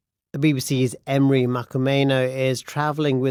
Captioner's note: none